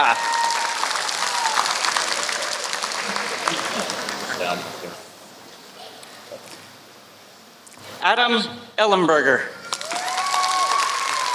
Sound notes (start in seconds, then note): 3.2 applause